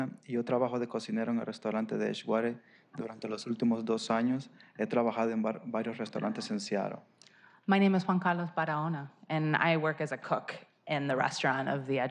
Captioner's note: spanish